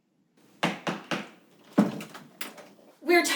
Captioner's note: door clunking